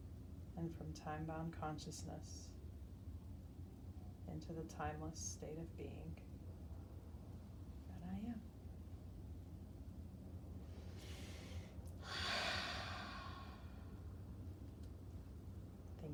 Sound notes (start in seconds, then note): 12.0 breathing deeply